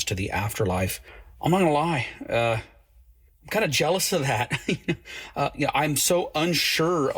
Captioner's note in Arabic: يضحك